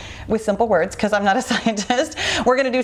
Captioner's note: chuckles